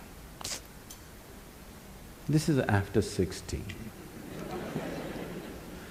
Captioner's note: laughter; 笑聲